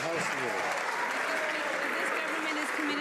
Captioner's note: some Applause